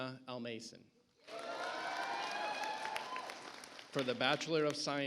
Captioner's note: audience applauds